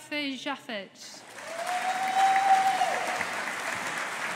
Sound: audience applauding

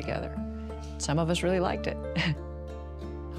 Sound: chuckles

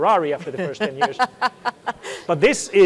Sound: laughs

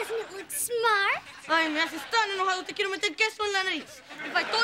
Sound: speaking spanish

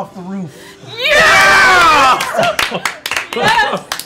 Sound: cheering

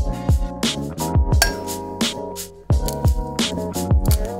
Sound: egg cracks

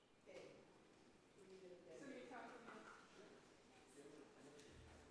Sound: people chattering

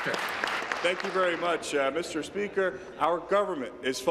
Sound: applause

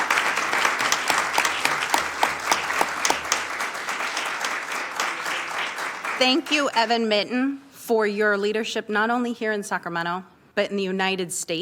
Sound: applause

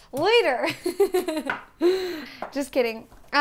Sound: laughs

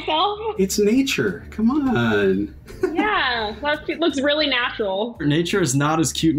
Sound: laughs

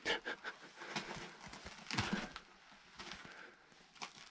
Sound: laughs

